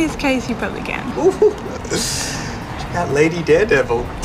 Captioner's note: chuckles